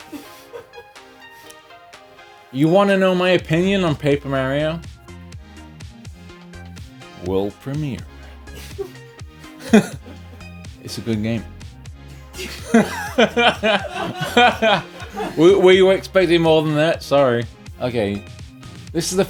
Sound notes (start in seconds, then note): 0.0 muffled laughter; 9.4 laughs; 12.3 laughs